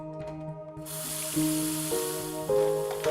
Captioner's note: water running